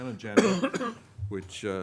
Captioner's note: coughing